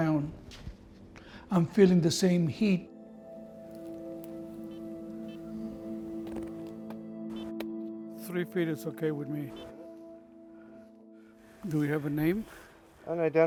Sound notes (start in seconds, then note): 4.5 somber music; 10.7 GPS device beeping